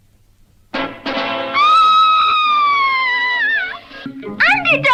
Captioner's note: Sweet Polly Purebred Screams